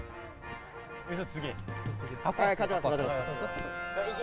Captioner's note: reverently